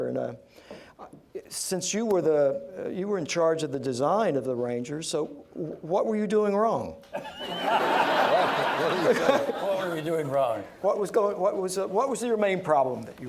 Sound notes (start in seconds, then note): 7.1 laughter